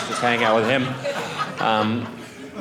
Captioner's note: audience laughing